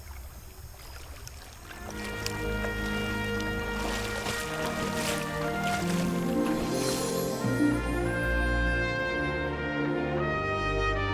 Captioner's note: crickets chirping